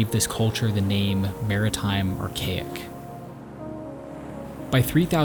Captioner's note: waves crashing